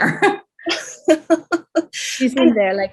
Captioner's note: laughs